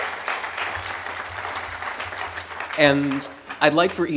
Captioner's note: applause